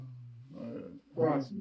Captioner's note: mumbling